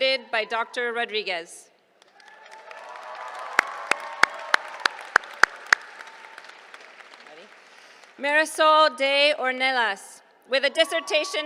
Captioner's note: applause